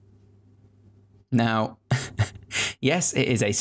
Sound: chuckling

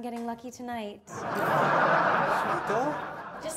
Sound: audience laughs

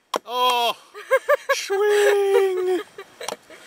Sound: laughs

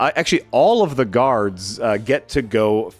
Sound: none

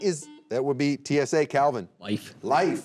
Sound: buzzer beeping

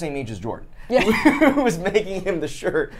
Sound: laughs

